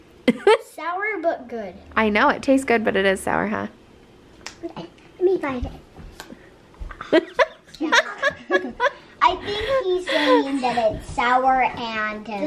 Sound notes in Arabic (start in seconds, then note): 6.8 أمي و يضحك